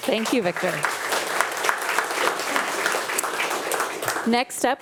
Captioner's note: attendees applauding